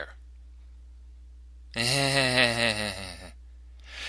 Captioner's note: fake Chuckle